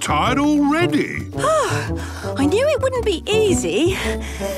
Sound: panting

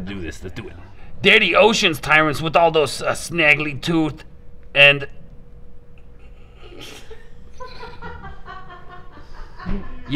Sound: laughing off screen

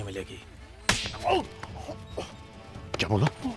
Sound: slaps; screams

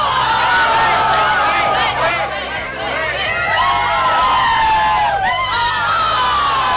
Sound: cheering

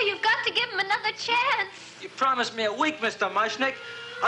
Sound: grunts

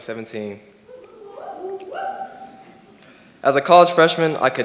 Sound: crowd whoops

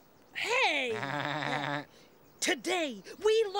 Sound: Armstrong laughs

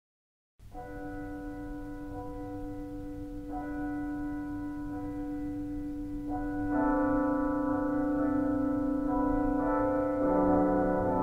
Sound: church Bells

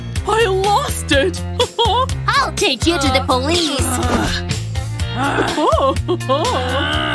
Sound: groans

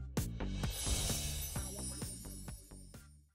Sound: fading sparkling sound

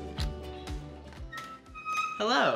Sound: door squeaks opens

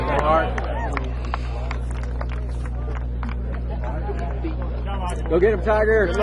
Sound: clapping

